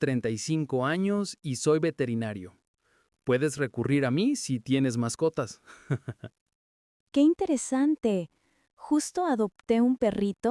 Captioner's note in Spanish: risas